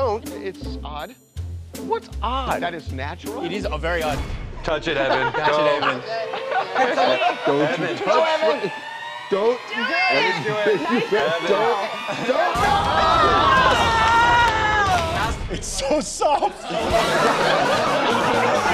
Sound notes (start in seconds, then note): 8.0 laughter; 18.5 laughter